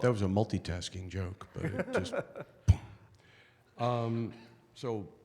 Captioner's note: laughing